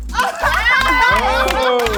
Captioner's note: laughing and cheering